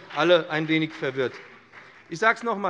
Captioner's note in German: Beifall BÜNDNIS 90/DIE GRÜNEN